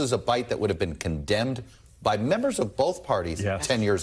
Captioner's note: laughter